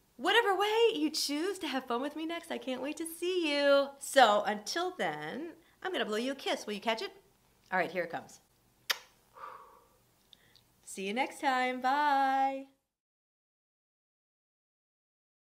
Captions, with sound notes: Whatever way you choose to have fun with me next, I can't wait to see you. So until then, I'm gonna blow you a kiss. Will you catch it? All right here, it comes. (smooching) See you next time. Bye.